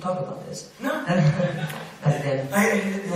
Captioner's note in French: rires